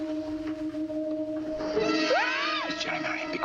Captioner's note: muffled scream